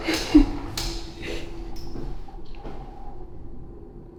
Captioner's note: laughing